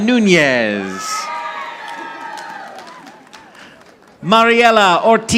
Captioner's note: audience applauding